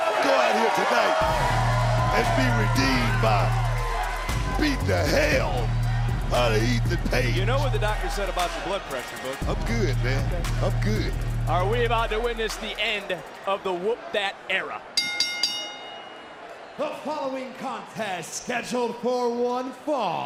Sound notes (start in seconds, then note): 14.9 bell rings